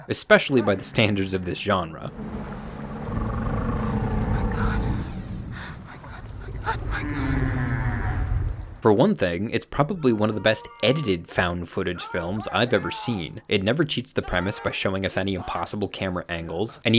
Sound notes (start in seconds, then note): 2.6 monster growling